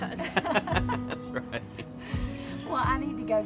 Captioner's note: laughs